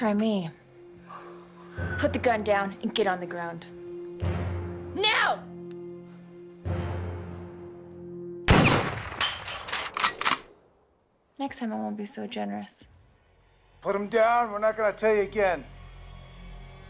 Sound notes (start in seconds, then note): 8.4 gunshot fires; 10.1 rifle cocking; 16.7 suspenseful music